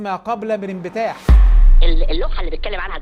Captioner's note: sound effects